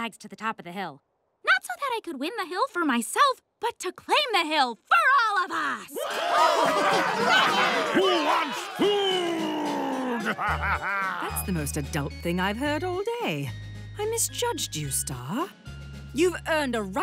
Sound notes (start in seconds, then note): 5.9 cheering